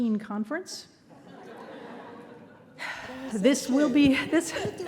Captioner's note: audience laughing